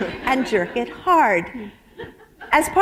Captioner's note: laughter